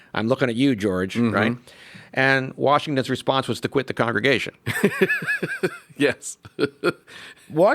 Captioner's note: laughs